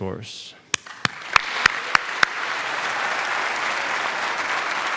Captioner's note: audience applauding